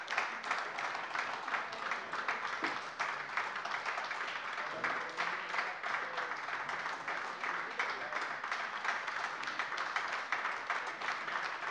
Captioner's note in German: Anhaltender Beifall AfD